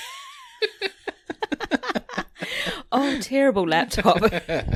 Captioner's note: laughs